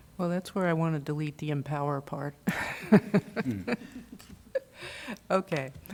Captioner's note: laughter